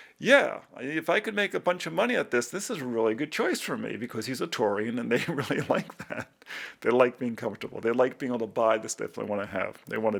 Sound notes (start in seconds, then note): 5.1 laughs